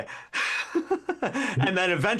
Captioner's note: laughs